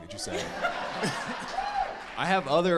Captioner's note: laughs